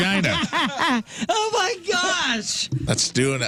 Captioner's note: laughing